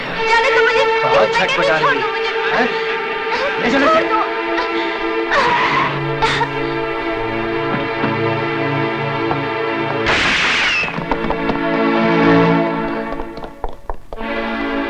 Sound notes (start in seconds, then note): 5.2 brakes squeal; 10.0 gunshot